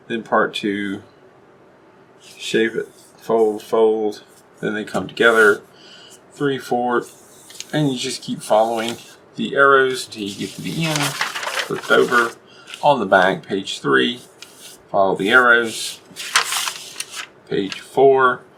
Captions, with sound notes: then part 2.. shape it, fold fold.. then they come together. 2, 4, and you just keep following the arrows till you get to the end. Flip over. on the back, page 3... follow the arrows. [paper slides] Page 4...